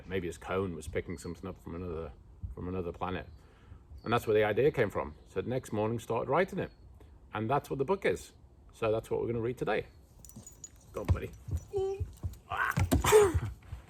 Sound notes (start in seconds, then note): 12.5 groan; 12.5 laughs